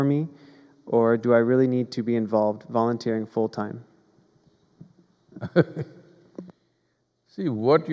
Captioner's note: Sadhguru laughs